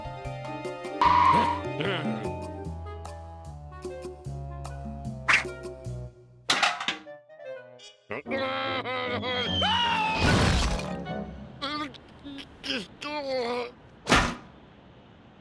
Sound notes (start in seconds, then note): 6.4 bucket clanks; 12.2 groaning